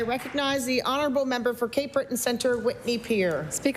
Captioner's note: applause